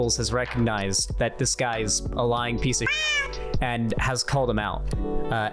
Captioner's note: meow